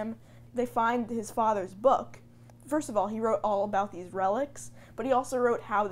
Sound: none

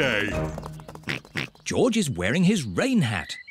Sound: oinks

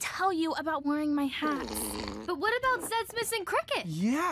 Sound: gasping

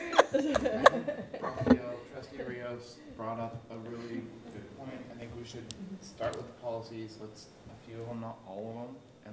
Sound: laughter

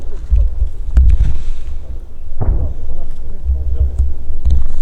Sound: far explosions

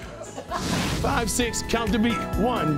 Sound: laughter; swoosh

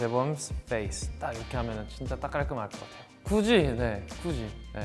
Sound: speaks Korean

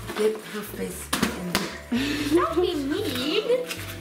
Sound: mother laughs

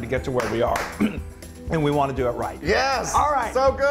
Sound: applause

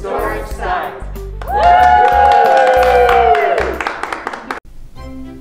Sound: cheering and clapping

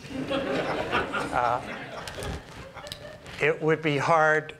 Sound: laughter

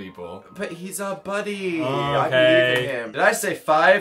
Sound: sighs

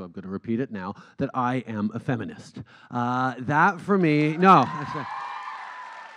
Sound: cheers

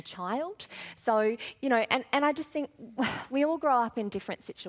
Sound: sighs

